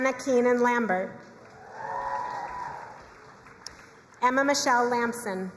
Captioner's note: crowd cheering and applauding